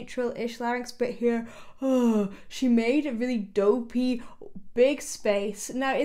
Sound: vocalizes

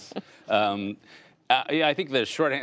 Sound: laughter

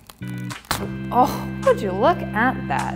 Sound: coconut ripping; upbeat music

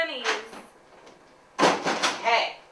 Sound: door opens and closes

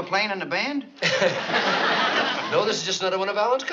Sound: laughs

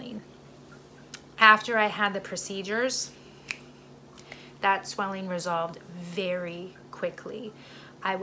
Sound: snap

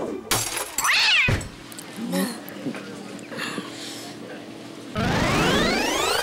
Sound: glass breaking; cat meowing; video game high score alert

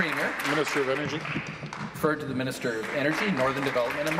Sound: applause

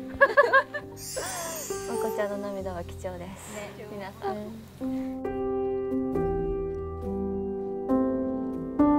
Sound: rare tears

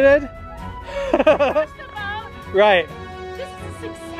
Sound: laughs

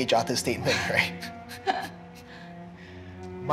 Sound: laughs

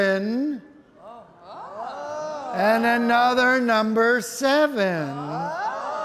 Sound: audience exclaiming

